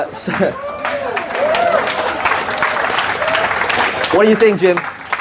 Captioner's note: laughs; audience cheering